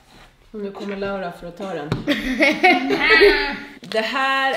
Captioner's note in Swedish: Skratt